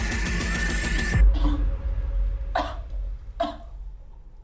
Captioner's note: Sarah retches